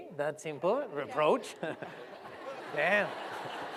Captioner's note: laughter